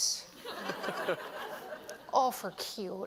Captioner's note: laughter